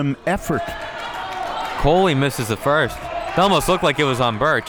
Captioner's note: audience clapping